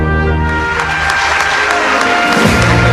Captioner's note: cheers and applause